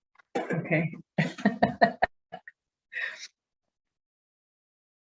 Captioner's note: laughing